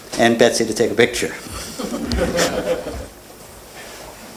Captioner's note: laughter